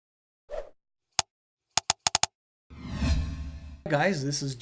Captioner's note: letters clicking and zooming